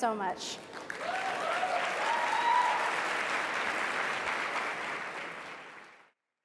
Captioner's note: audience applauds and cheers